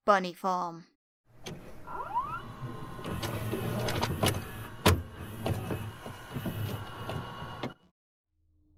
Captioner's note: VHS noises